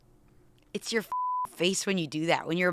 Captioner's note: beep